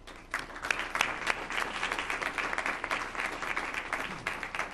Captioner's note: audience applauds